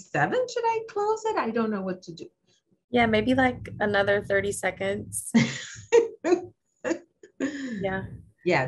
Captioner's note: laughter